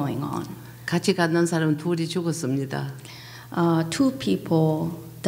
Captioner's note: speaking foreign language